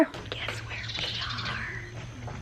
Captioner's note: whispering